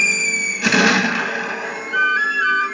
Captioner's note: thud